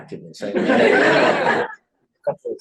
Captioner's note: laughter